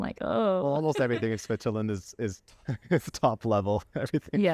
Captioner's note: laughter